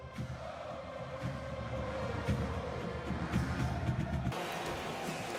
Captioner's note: crowd chanting